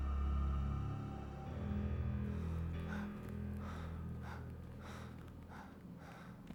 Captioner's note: panting